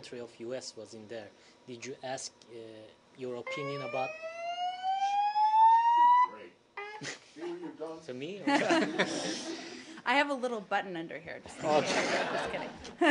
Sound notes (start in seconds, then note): 6.8 fire alarm sounds; 8.4 laughter; 11.6 laughter